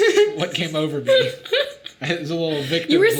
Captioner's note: Sadie laughing